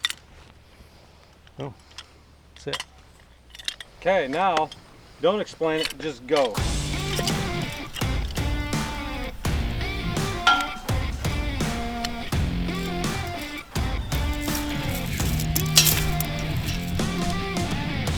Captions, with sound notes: Oh, that's it. - Okay now don't explain it. Just go. (rock music) (metals clunking)